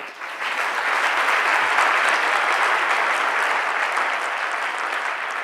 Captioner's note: audience clapping